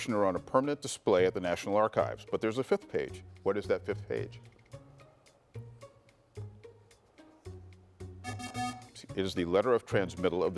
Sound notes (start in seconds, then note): 4.7 lively music; 8.3 bell dinging